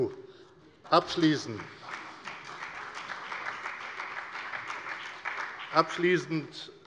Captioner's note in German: Beifall bei der FDP, der CDU, der SPD und dem BÜNDNIS 90/DIE GRÜNEN